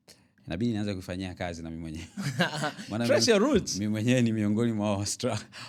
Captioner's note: laughter